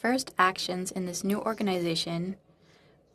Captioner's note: speaking in French